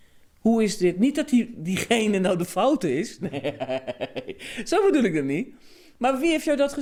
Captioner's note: laughs